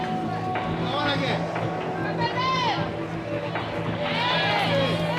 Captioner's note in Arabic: تشجيع الجماهير